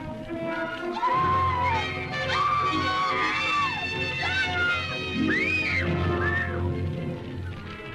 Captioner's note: screams